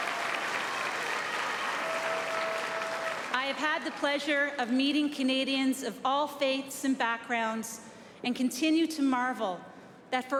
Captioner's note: applause